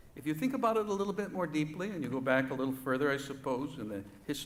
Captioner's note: none